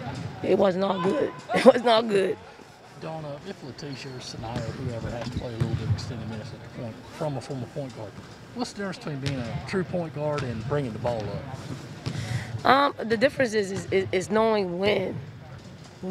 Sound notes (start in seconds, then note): 1.5 chuckles